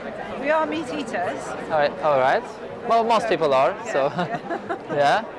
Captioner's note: laughs